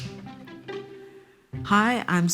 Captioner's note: film snapping